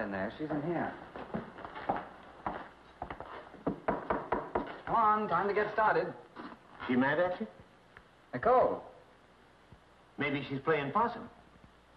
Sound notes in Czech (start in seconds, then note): 3.6 Klepání